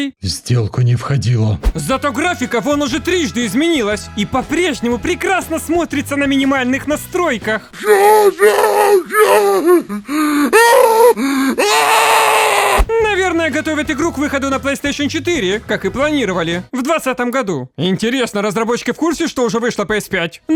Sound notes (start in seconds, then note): 7.7 screams of horror